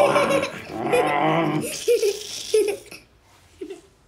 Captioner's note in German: Lina lacht fröhlich